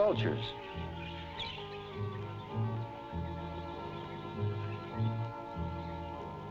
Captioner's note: birds chirping; gentle music